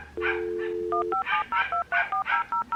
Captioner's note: internet dialing sounds